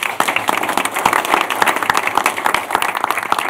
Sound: applause

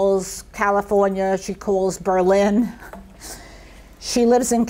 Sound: chuckles softly

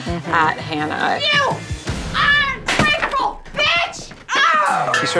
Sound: yells

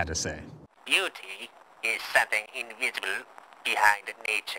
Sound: tinny and low fidelity

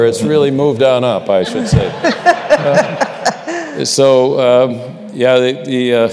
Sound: laughter

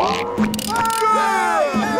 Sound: cheering

